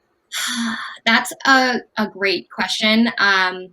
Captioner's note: sighs